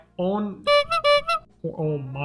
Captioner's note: tooting horn sound